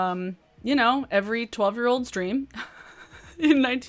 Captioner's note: laughs